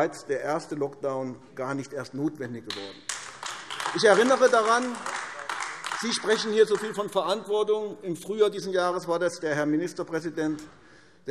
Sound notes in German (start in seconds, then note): 2.6 Beifall AfD